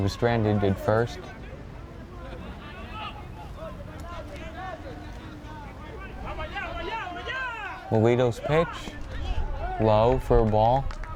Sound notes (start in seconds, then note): 3.2 players yelling in foreign language